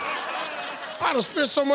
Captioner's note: audience laughs